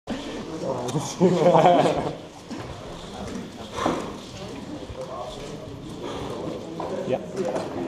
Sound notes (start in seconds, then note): 0.8 laughing; 3.4 sighs